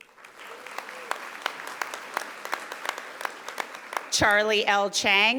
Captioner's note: audience applauding